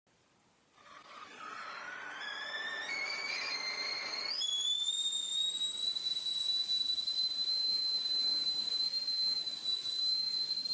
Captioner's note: boiling kettle screeching loudly